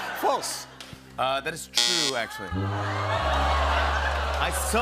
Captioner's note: buzzer